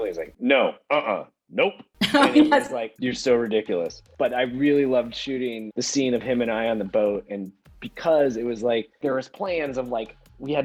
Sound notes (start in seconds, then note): 2.0 laughing